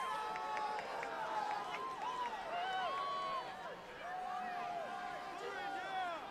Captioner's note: cheers